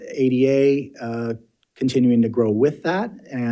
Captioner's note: none